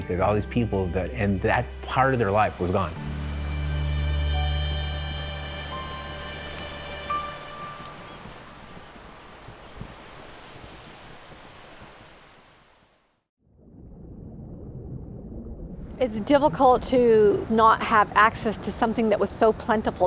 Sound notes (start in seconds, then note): 3.1 crackling fire while folk music fades; 7.0 waves crashing